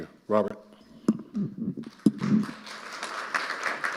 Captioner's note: mic creaking; audience applauding